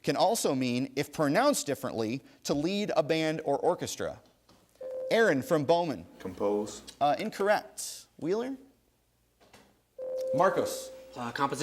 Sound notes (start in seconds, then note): 4.8 ding; 10.0 ding